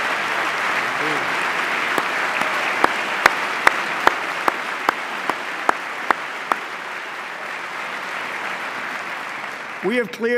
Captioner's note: applause